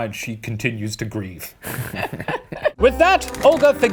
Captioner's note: laughing